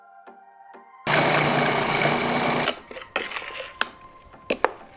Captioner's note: blender whirring